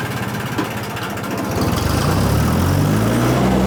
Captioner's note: truck Engine Revs